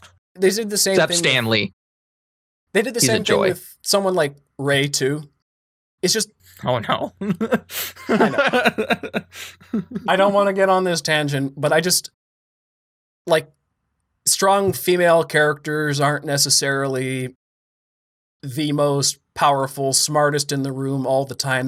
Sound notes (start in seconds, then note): 7.2 laughter